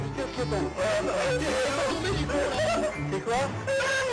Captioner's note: group chattering; group laughing